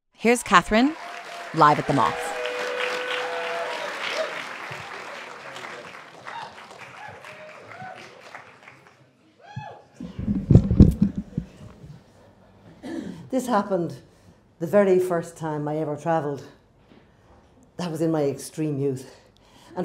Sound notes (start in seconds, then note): 4.0 audience cheering